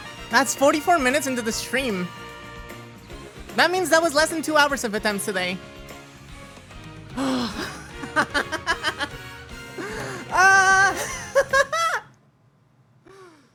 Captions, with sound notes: That's 44 minutes into the stream! That means that was less than 2 hours of attempts today. [ SIGH ] [ LAUGHTER ] [ YELLING ] [ LAUGHTER ]